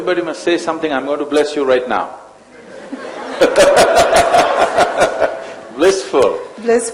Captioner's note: laughter